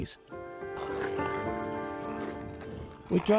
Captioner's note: skate blades carving ice